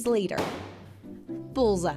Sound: thwopping sound

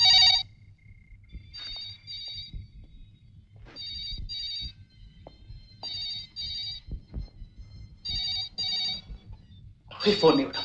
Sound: phone ringing

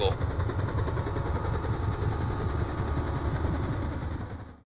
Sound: propeller rotating loudly

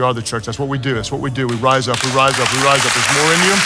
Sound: congregation applauds

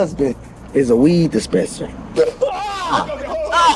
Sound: Malik screams

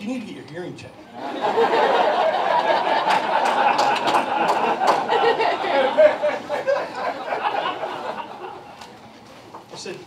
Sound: laughter

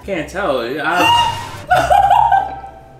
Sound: laughs; gasps

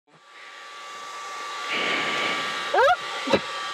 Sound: air pressurizing

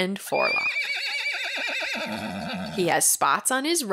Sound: Champ whinnies

